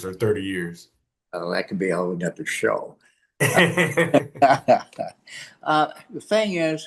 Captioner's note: laughs